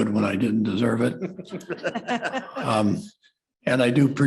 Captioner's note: laughter